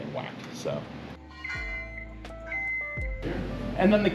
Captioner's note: machine beeping